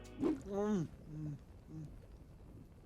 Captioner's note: moaning